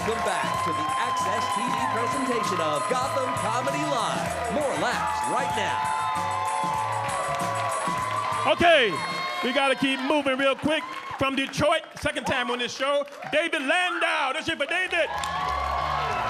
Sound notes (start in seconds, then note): 6.1 upbeat music; 6.9 audience cheering